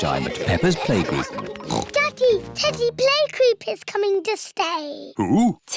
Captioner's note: oinks